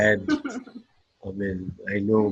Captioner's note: laughter